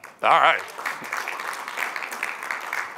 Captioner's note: applause